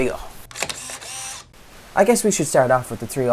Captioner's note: camera Click